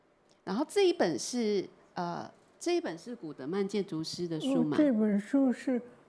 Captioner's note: Mandarin; Mandarin